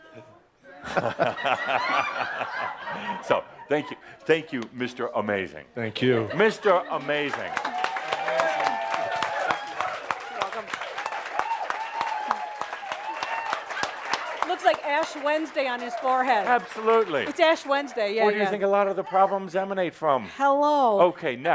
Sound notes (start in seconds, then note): 0.1 laughter as says “No!”; 9.7 audience applause